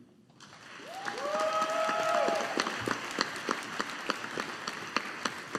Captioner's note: audience applauding